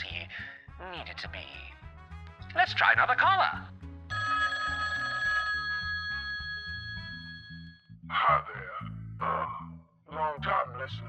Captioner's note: phone rings